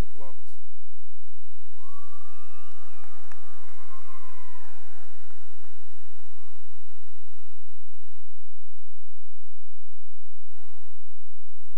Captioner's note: cheering and applause